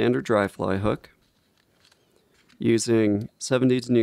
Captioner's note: packaging rustling